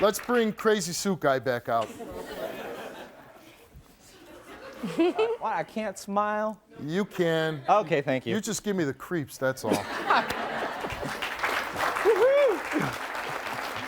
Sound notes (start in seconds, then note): 1.8 audience laughing; 10.1 audience clapping